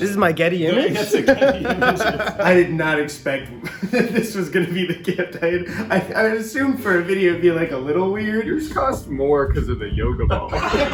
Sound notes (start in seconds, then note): 1.0 both laughing; 10.4 all laughing